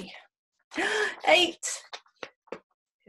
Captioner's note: gasp